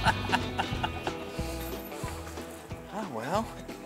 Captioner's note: laughing